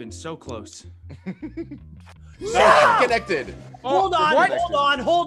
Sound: laugh

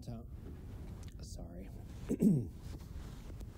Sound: clears throat

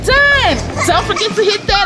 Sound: Gaga Baby laughs

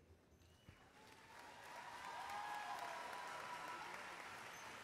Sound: audience cheers and applauds

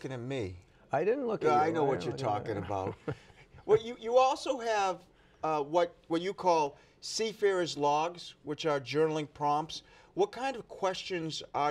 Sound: laughter

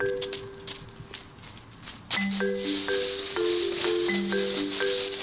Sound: footsteps crunching

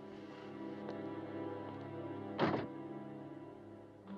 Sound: door Closes

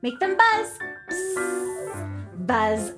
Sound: buzzing

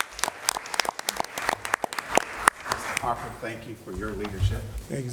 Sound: applause; applause

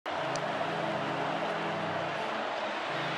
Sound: crowd noises

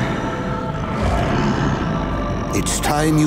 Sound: grunting

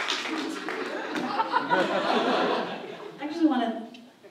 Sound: applause; audience laughs

